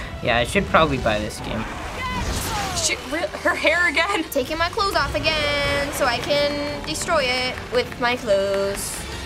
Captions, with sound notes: Yeah, I should probably buy this game. (Bayonetta cries out) - She-- her hair again?! - Taking my clothes off again so I can destroy it with my clothes.